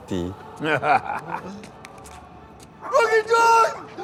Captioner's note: laughs